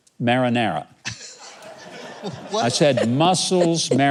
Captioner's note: audience laughing; laughing